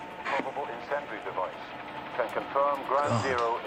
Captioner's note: man over speaker